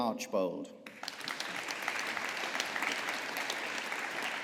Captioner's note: audience applauding